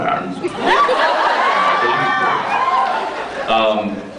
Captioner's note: laughs, cheers; laughs